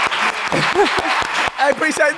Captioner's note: crew applauding; laughing